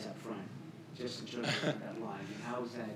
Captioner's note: Julian laughs